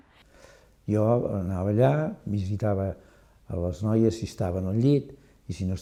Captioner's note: in catalan